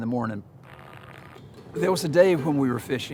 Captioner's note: TV crackles